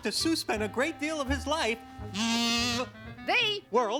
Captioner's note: blows whistle